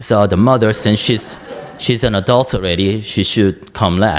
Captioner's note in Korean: 청중 웃음